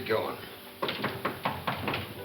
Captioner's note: visitor knocking; gentle piano music